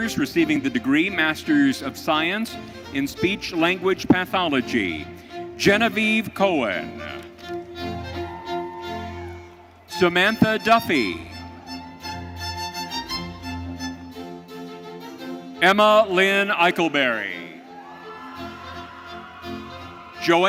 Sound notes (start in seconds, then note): 7.9 audience cheering; 17.5 audience cheering